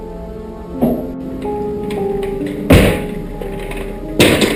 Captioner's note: chair banging